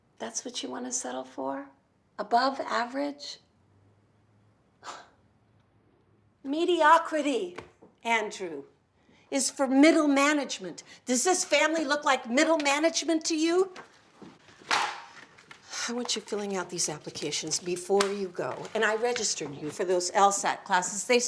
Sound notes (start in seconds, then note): 4.7 scoffs; 14.2 paper thwacking on counter; 16.1 sighs